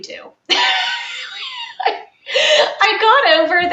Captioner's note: laughing